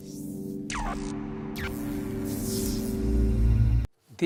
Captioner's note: logo buzzes